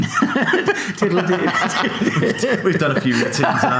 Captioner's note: laughing